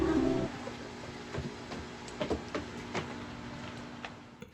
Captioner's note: footsteps